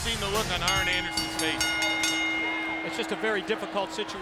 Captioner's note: bell rings